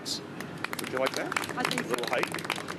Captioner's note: applause